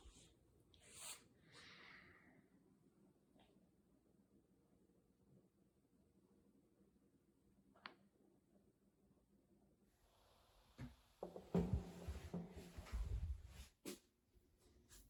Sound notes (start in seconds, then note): 11.6 wood thuds